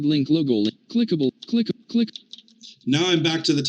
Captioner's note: pressing buttons